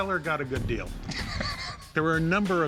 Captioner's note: chuckles